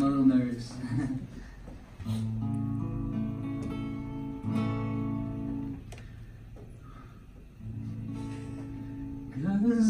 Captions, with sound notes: I'm a little nervous *laughs awkwardly* *Nervous breathe*